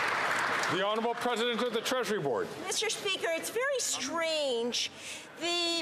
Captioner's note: some Applause